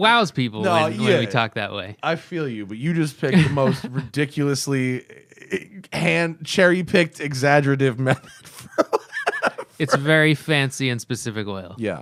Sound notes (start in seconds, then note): 8.0 laughter